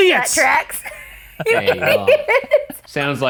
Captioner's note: laughing